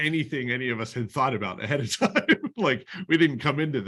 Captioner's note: laughter